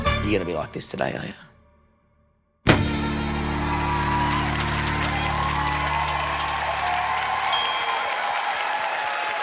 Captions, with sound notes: Are you gonna be like this today are ya? (CHEERING AND APPLAUSE)